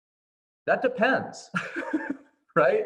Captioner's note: laughing